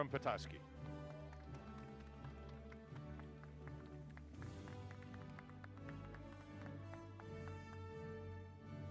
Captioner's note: applause